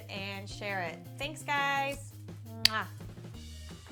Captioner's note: kiss